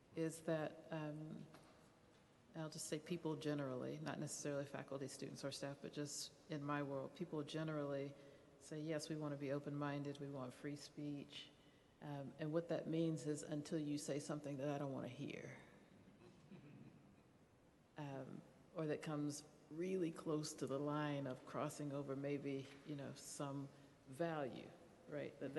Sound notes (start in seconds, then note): 16.2 chuckling